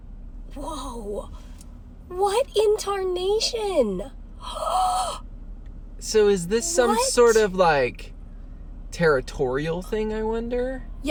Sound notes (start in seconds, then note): 4.3 gasps